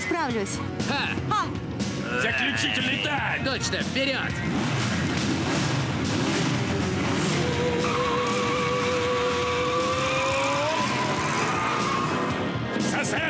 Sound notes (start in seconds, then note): 4.9 revving engines